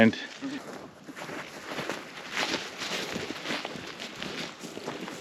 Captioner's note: feet crunching